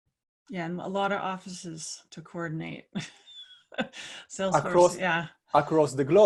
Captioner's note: laugh